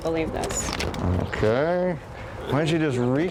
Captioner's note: paper rustling